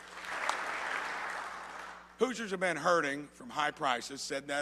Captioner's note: applause